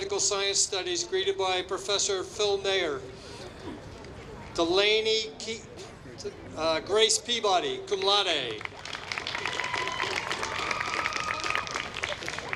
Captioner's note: applause